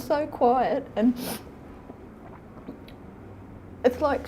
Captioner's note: sniffs